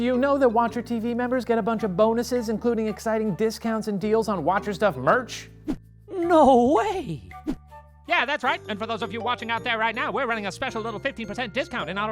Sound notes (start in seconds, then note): 5.3 air whooshing; 7.4 air whooshing